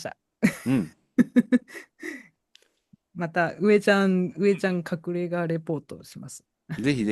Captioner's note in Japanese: 笑い; 咳払い